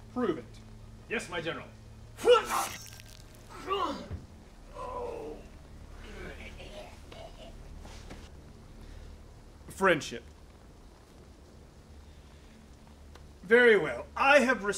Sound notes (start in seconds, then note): 2.3 squish, mortally-wounded groaning